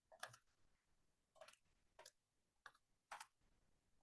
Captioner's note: keyboard typing